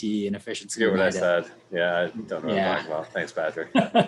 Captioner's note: indistinct chatter